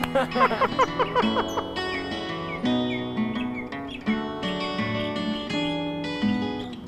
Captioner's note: both laughing; birds chirping; gentle music